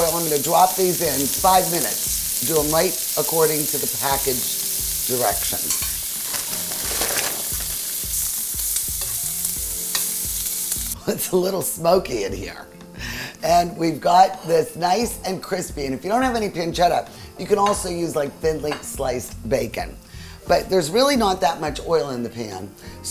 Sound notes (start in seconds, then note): 5.6 pan sizzling